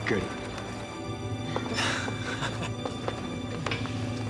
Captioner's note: chuckling